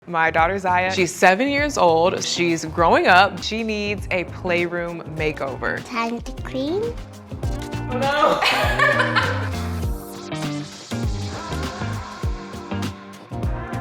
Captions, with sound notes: - My daughter Zaya. She's seven years old, she's growing up. She needs a playroom makeover. - Time to clean? - Oh no. (laughing) (upbeat music)